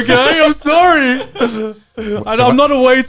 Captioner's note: guys laughing